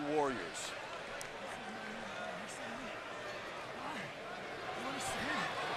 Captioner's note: crowd chatter